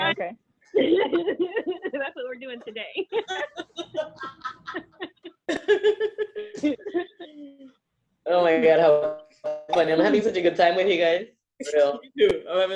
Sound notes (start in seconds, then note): 3.0 laughter